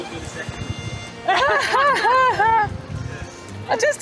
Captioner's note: laughing